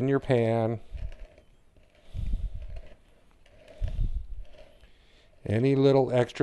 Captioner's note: silence